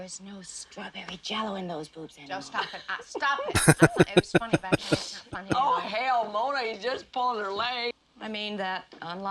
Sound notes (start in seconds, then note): 3.5 laughing